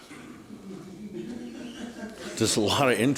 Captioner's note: laughter